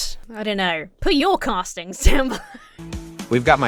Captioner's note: wheezes